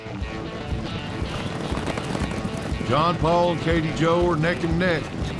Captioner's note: fast hoofbeats